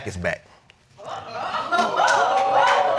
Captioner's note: audience wooting